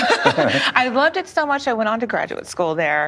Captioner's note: laughs